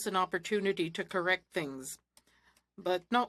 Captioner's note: speaking French